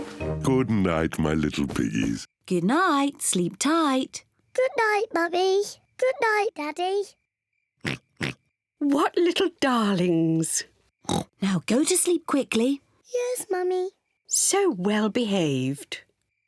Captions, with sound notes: Good night, my little piggies. Good night. Sleep tight. Good night, Mummy. Good night, Daddy. (OINKS) What little darlings! (OINKS) Now, go to sleep quickly. Yes, Mummy. So well behaved!